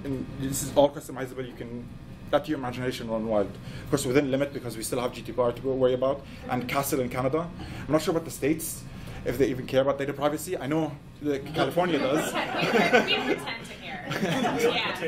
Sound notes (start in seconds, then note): 11.5 laughs